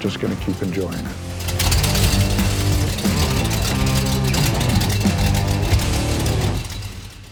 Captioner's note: upbeat music; car engine revving